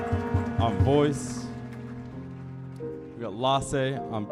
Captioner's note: audience applauding